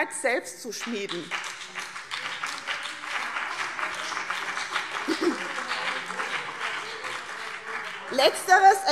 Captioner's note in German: Beifall BÜNDNIS 90/DIE GRÜNEN und CDU - Zurufe AfD und Freie Demokraten